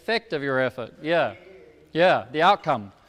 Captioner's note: speaks off microphone